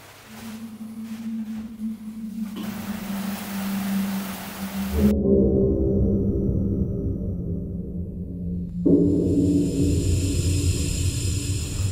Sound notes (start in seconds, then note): 0.1 chair scrapping on tile floor; 2.1 ominous wind howling outside; 4.4 wind blowing through palm trees; 6.0 eerie deep horn blast; 8.8 deep hissing sound